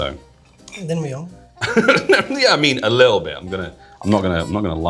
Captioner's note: chuckles